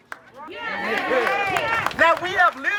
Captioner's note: crowd